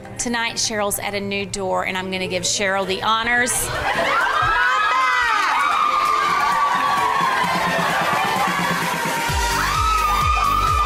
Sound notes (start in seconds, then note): 4.5 cheerleaders yelling; 8.0 upbeat music